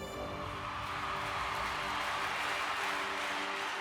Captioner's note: cheers and applause